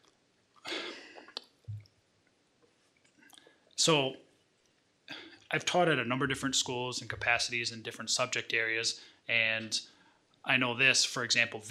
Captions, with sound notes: (sighs) So, I've taught at a number of different schools, in capacities and different subject areas and I know this, for example,